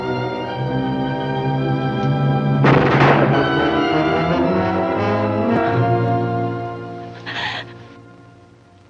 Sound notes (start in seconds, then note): 2.6 gun bangs; 4.4 tense music; 7.2 crying